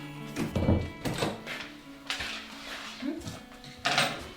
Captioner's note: door closes